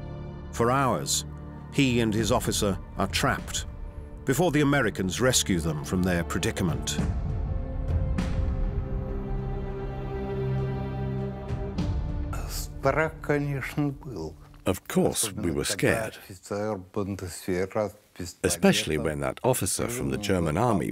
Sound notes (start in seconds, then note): 12.3 speaking Russian